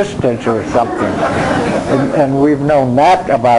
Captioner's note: crowd laughing